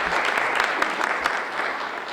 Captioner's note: applause